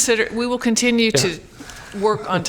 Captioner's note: laughter